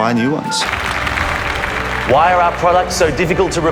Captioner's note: applause